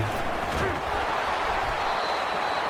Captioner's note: crowd Noises